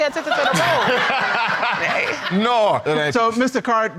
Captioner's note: audience laughing; laughs